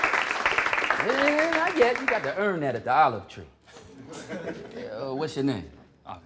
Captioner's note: applause; laughter